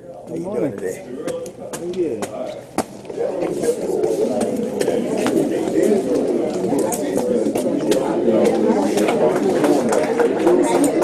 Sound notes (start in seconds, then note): 2.3 people chattering